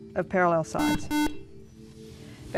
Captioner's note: beeping